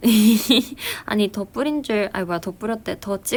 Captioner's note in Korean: 웃음